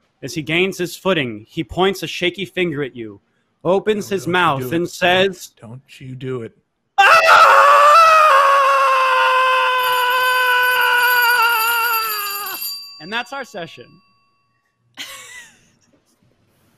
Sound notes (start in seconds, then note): 7.7 bells ring; 7.7 shouts